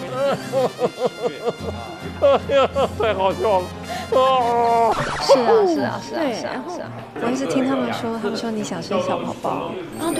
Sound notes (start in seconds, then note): 4.8 chatting